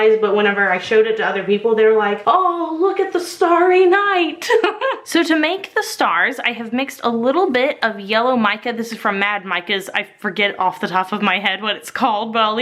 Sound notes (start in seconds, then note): 4.3 laughing